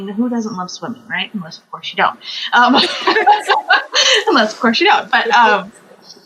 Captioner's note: laughs